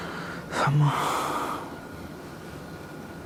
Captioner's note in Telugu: నిట్టూర్పులు